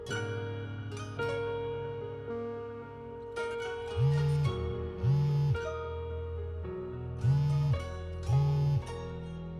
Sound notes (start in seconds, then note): 5.0 phone vibrating